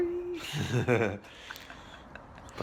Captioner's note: laughing